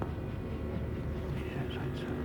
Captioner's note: man whispering